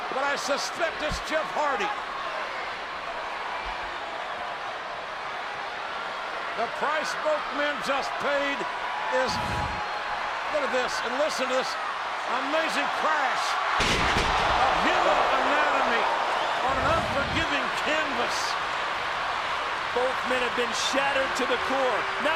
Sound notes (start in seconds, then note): 9.6 whooshing sound plays; 13.8 ring crashes